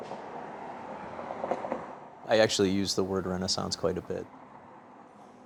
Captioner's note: wind rustling